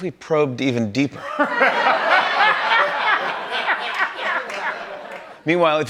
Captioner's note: laughter